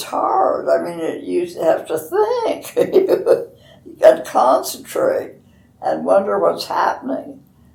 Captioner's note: laughs